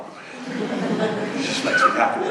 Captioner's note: laughter